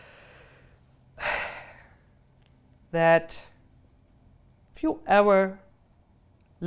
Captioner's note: sighs